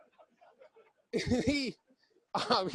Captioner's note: laughing